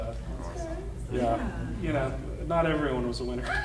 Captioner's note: panel muttering